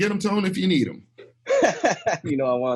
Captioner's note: laughs